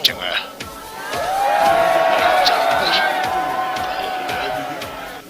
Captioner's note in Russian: Крики